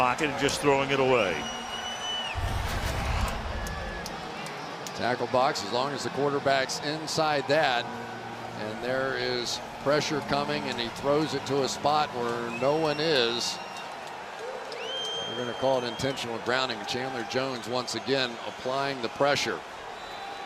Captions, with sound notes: In the pocket and just throwing it away. [cheering] Tackle box, as long as the quarterback's inside that, and there is pressure coming, and he throws it to a spot where no one is, they're going to call intentional grounding. And Chandler Jones, once again, applying the pressure.